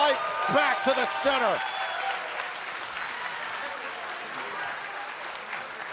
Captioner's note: cheers & applause